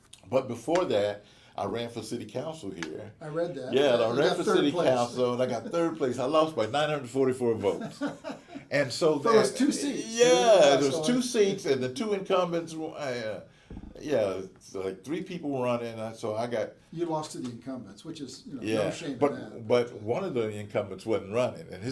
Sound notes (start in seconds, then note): 7.6 laughs